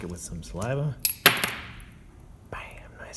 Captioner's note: glass tinks